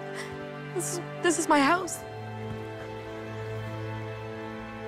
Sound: sobbing

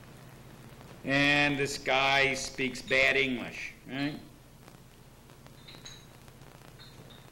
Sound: tape runs out

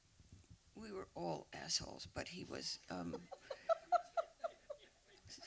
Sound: laughs

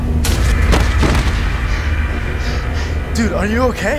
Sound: thudding

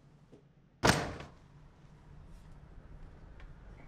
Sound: door slamming

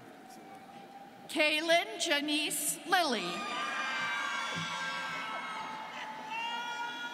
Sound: students cheering

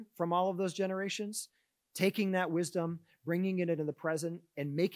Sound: none

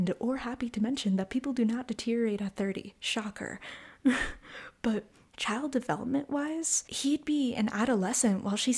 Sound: laugh

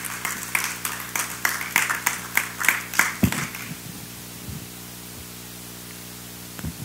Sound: applause

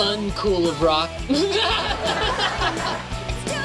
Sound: laughing

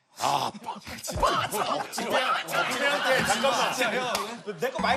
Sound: laugh

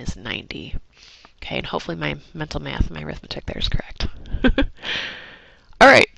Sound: laugh

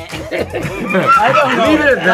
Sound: group laughing

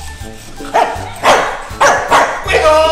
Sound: dog barking

